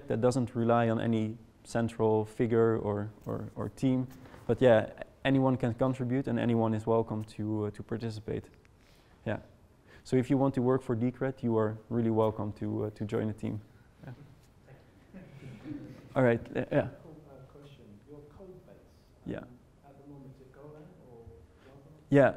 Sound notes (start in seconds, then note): 15.2 audience laughing